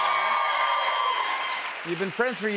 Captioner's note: cheers and applause